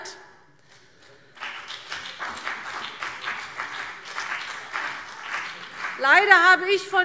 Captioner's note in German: Beifall CDU und BÜNDNIS 90/DIE GRÜNEN